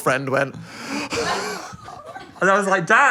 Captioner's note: gasps